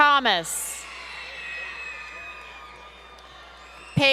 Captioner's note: crowd Cheering